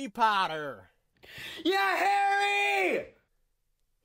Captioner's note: cheers obnoxiously